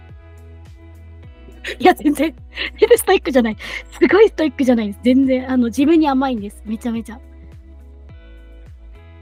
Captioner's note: laughs